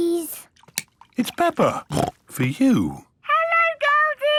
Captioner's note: snorts